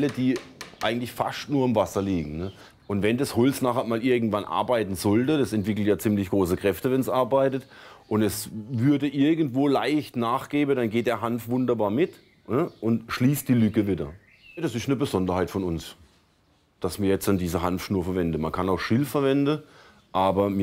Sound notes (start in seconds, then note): none